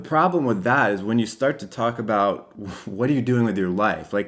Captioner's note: chuckles